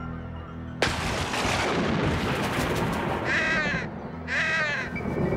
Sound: thunder clapping

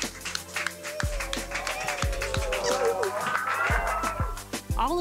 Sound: whimpering

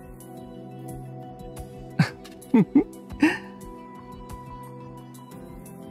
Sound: chuckle

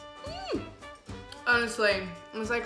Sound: shrieks

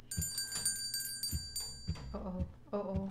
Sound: bell rings

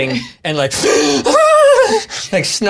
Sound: heaving, wheezing sobs

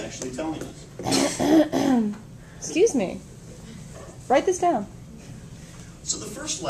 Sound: fake coughs again

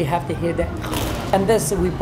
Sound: crust crunches

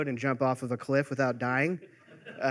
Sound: laughter

